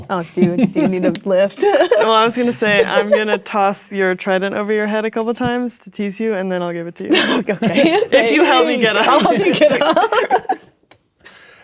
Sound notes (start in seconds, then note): 1.6 laughing; 7.1 laughing